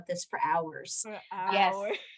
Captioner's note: laughter